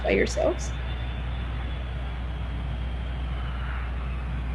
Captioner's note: airplane roaring